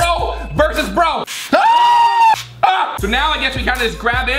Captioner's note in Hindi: चिल्लाता है